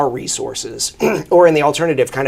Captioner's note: clears throat